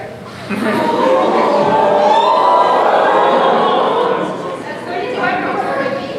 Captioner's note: AUDIENCE awwwwwwww